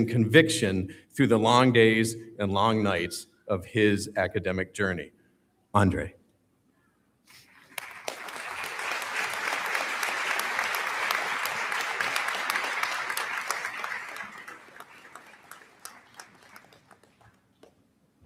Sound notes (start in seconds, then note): 7.5 audience Applauding